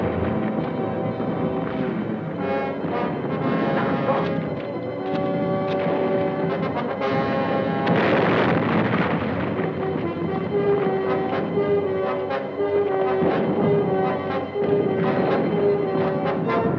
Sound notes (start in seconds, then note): 0.2 adventurous orchestral music; 7.0 grenade explodes; 10.7 bold orchestral music